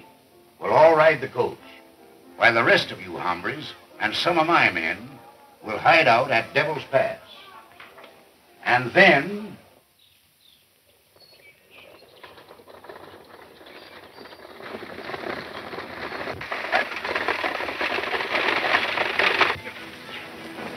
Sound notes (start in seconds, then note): 15.9 horses galloping